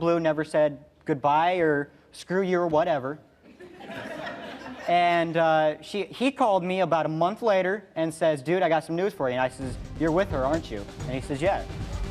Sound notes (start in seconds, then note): 3.5 laughs